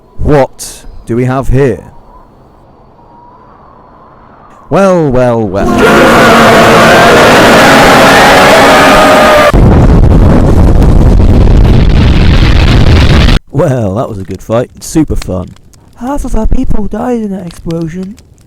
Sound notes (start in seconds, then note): 5.5 war cry; 9.6 explosion noises